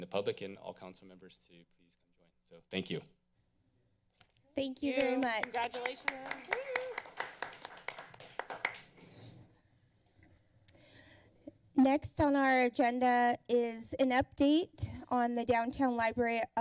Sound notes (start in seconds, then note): 9.0 applause